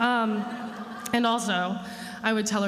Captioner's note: attendees laughing